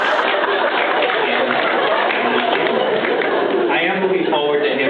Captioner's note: laughs